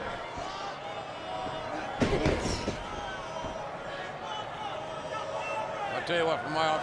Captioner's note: crowd chanting; mat thumping